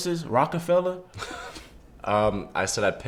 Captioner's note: Bob laughs